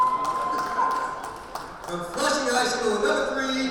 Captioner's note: crowd cheering